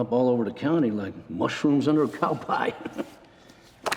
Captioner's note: chuckling